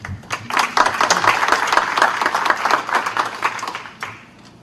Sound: applause

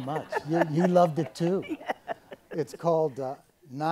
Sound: laughs

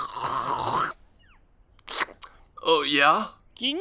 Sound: obnoxious slurping continues; another quick slurp

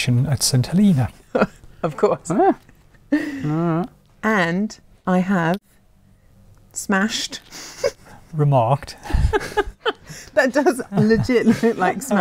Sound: laughing

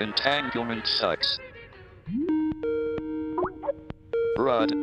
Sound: phone rining

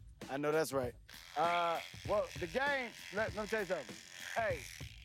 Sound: shear buzzes

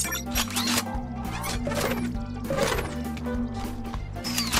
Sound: mechanical noise

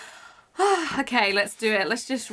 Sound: sighs

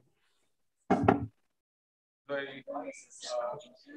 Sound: indistinct conversation

